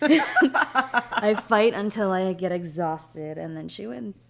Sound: laughter

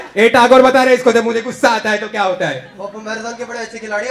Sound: none

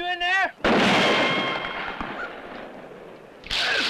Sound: gunshot

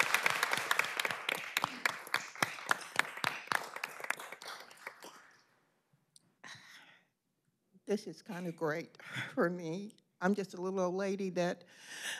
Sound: applause

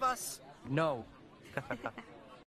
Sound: Both MK and Mei laugh

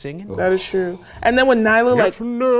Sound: sighs

